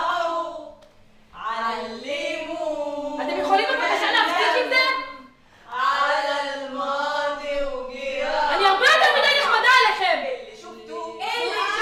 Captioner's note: Arabic